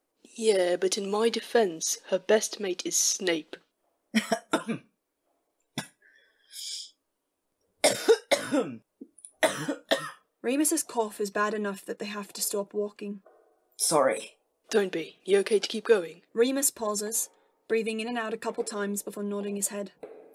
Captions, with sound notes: “Yeah, but in my defence, her best mate is Snape.” [ Remus laughs, which quickly turns into a cough] Remus’ cough is bad enough that they have to stop walking. “Sorry,” “Don’t be. You okay to keep going?” Remus pauses, breathing in and out a couple times before nodding his head.